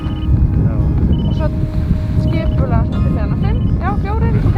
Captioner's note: speaking in Icelandic; device beeping